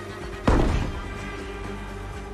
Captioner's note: bash